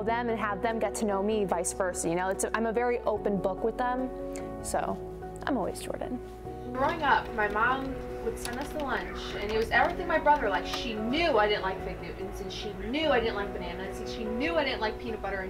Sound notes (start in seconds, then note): 6.5 nat. Sound: Conversation in Newsroom